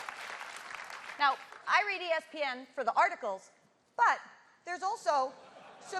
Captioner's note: applause